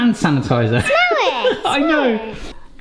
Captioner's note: laughs